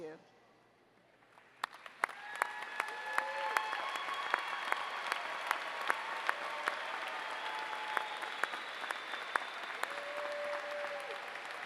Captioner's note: applause